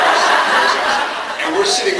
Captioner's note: laughs